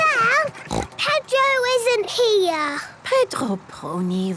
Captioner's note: snort